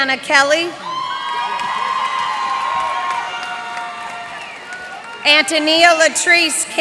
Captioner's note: cheers and applause